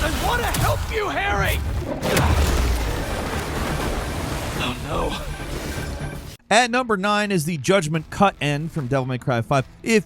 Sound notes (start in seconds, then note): 1.9 Spider-Man grunts; 1.9 ground cracking